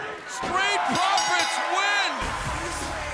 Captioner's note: bell ringing